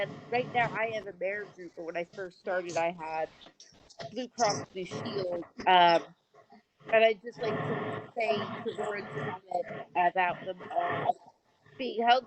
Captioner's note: off mic